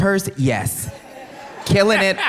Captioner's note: audience laughs